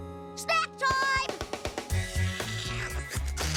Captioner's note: slurping